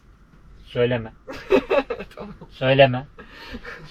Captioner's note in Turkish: kahkaha